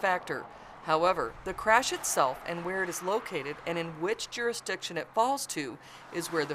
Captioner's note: sounds of vehicles driving on road